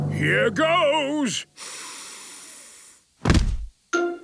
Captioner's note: dramatic drumming music; sniffs